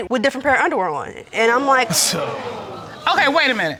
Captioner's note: scoffs